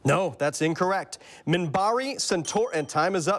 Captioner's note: bell dings